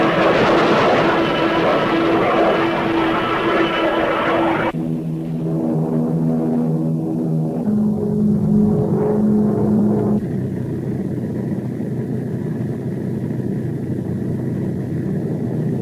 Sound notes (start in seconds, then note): 2.1 plane engines roaring; 5.2 plane engines revving